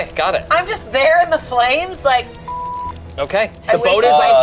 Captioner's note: beep